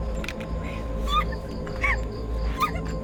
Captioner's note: squeals